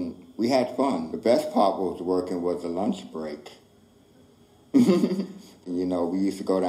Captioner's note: laughs